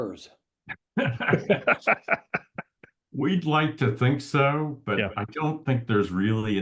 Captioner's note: laugh